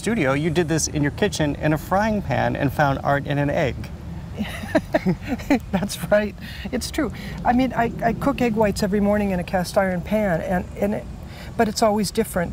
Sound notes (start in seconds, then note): 4.3 laughing